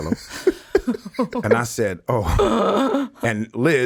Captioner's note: chuckles